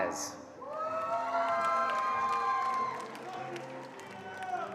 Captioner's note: attendees cheering and applauding